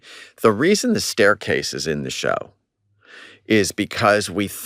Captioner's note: none